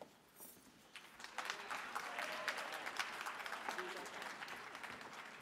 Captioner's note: audience clapping